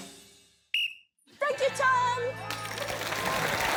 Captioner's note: blows whistle